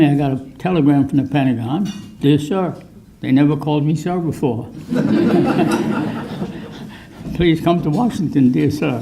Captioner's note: laughter